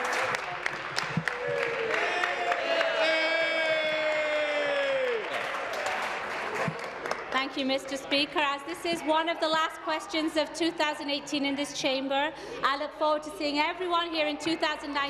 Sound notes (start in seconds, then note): 0.0 applause; 7.2 cheers